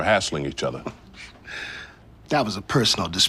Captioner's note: quiet laugh